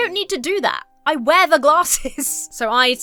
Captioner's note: chuckles